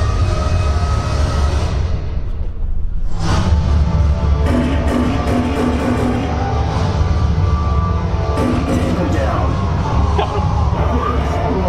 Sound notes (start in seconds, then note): 4.3 guns firing